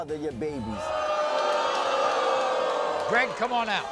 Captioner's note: audience boos